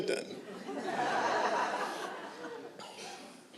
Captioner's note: laughter